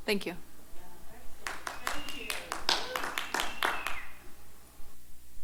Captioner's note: applause